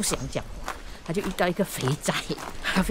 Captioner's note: Cantonese